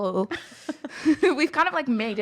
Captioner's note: laughing